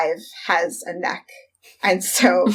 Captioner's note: laughs